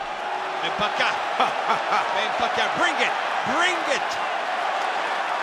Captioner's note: laugh